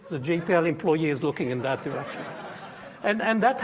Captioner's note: audience laughing